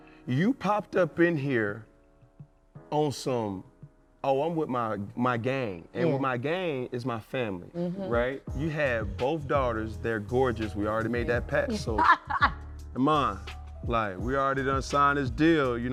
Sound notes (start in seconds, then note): 11.7 laughing